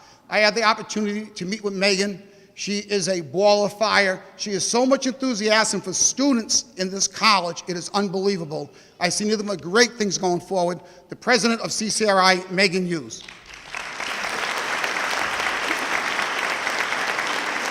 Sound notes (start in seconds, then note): 13.2 audience clapping